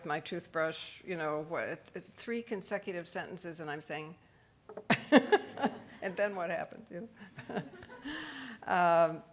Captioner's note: laughs